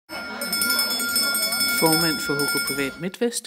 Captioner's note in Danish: dirigentklokke ringer